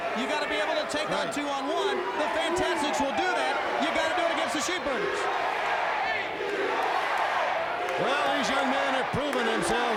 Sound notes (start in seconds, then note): 5.0 fans chanting USA